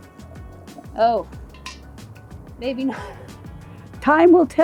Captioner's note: laughing